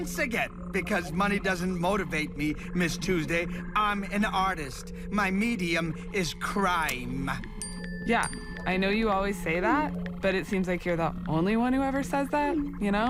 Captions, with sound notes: because money doesn't motivate me, Ms. Tuesday. I'm an artist. My medium is crime. [phone dings] - Yeah, I know you always say that, but it seems like you're the only one who ever says that, you know?